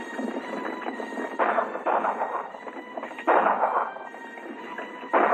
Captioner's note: gunshots and horses galloping